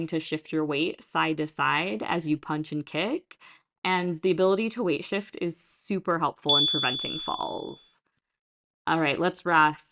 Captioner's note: chime